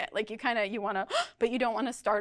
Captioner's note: gasps